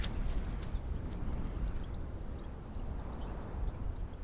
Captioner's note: birds chirping